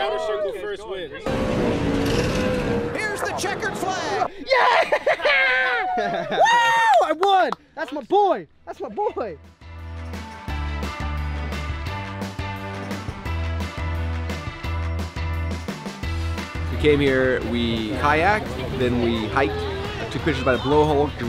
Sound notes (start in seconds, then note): 1.2 engines roaring; 5.2 laughing and cheering; 9.7 upbeat poppy rock music